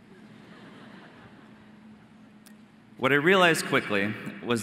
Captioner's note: audience laughing